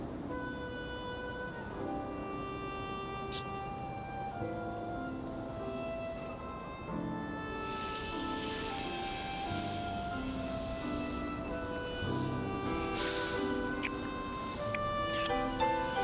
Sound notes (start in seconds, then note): 0.2 gentle music; 3.3 lips smooching